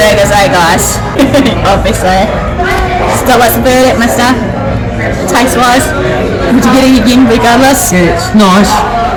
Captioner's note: laughing